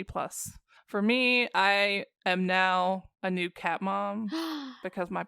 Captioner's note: gasp